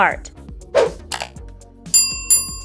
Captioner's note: click